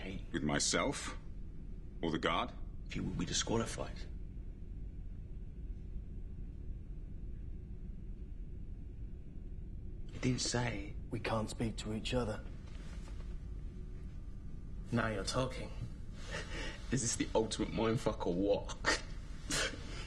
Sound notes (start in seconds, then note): none